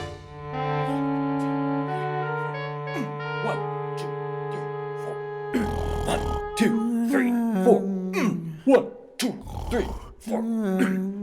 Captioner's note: Merdalfdore snoring